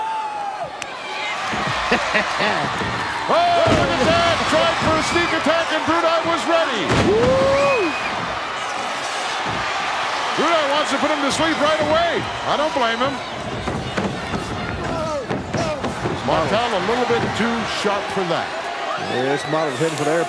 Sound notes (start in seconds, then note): 0.1 audience cheering; 1.9 hillbilly chuckling; 4.1 chuckling; 7.5 audience cheering